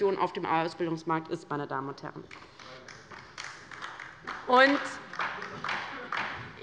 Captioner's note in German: Beifall bei der LINKEN